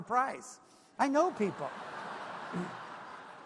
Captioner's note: laughter